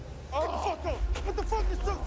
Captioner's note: man on knees groans